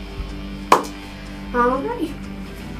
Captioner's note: claps